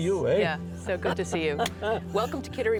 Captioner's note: chuckles